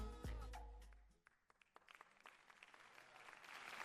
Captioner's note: applause